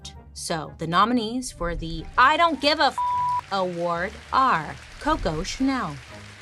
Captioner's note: beep